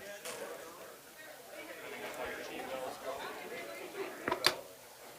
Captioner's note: people chattering